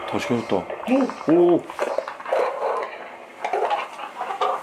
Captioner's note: The sound from the EMF device